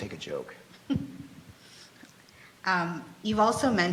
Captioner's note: laughs